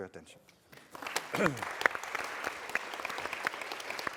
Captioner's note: applause